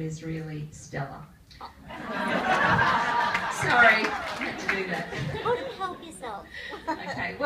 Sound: laughter from audience

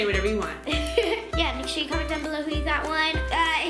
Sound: laughs

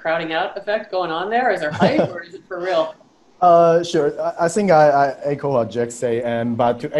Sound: chuckles

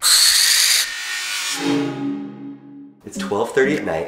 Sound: screeching

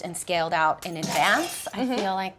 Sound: crashing

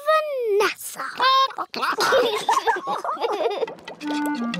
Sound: chickens chatter; children giggle

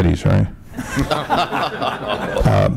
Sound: laughter

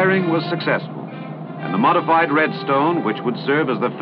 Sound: none

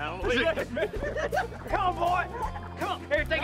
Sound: laughs

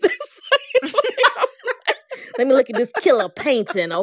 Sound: laughter

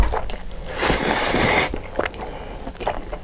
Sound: slurping

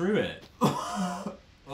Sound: cough/ wheeze

